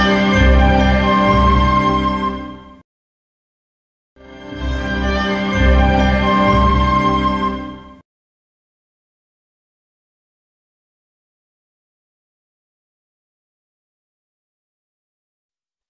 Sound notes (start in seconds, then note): 4.2 orchestral music playing; 9.5 silence